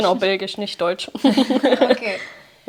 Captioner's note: Beide lachen